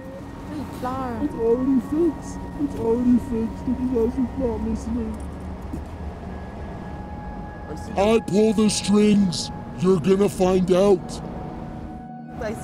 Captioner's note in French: sanglots de l'homme